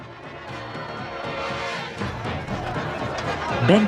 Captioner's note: people chattering